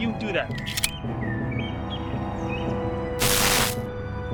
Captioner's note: baton clicks; suspenseful music; static whirs; suspenseful music continues